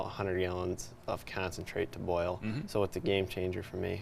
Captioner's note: humming